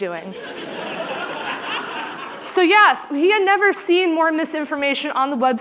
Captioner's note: laughter